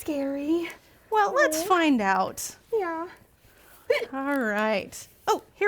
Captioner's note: hic